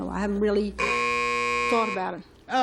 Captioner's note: buzzer